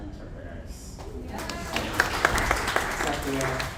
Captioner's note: audience applauds